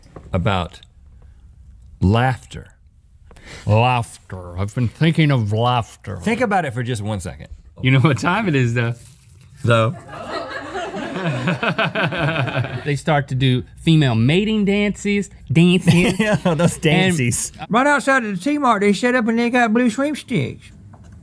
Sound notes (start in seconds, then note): 10.0 laughing